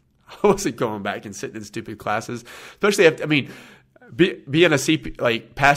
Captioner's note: laughs